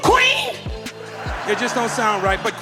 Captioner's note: audience laughing